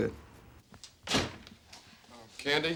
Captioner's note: door closes